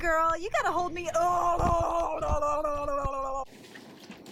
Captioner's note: sounds of distress; spitting water